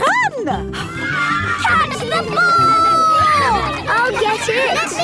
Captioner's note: children cheering; children calling for the ball